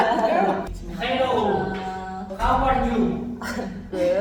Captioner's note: appears energetically speaking English